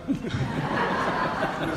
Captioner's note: audience laughs